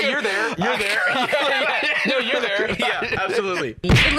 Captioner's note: laughing